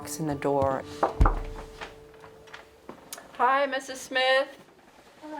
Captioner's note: knocking